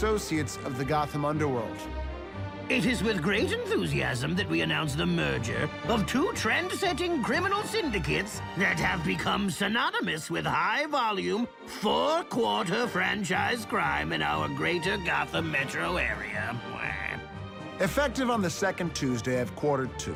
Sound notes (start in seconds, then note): 15.6 squawks